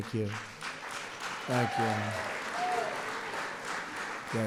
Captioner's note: applause